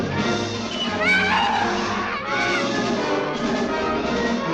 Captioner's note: Dave yelling